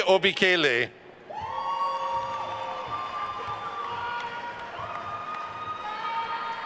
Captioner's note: attendees cheering and applauding